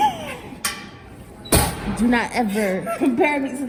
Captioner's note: gasping